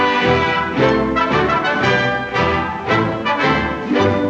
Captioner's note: none